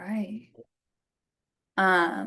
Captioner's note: pause